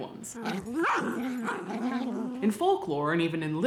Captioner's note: puppies growling